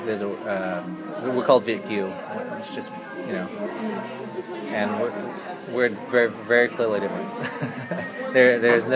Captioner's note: laughs